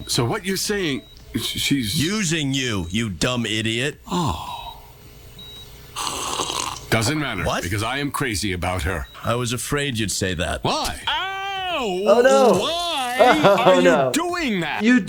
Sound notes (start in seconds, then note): 6.0 Archer slurps drink